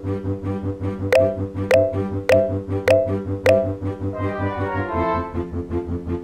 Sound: phone ringing

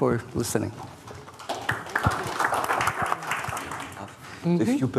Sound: audience applauding

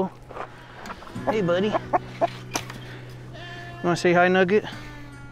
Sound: chicken clucking

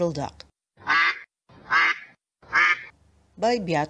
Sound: quack, Quack sound

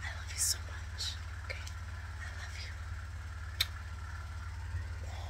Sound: kisses

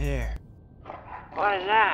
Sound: growling

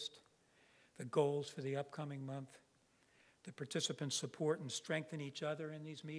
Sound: none

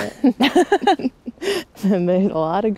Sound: both laughing

